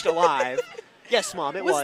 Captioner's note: laughs